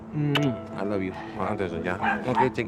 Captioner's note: speaking spanish